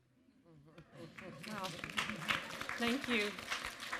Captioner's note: applause